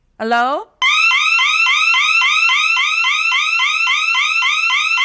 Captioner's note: siren blaring